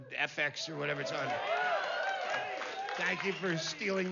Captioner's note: vítores y aplausos